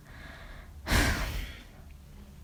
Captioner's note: sighs